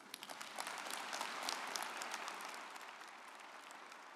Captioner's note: audience applauding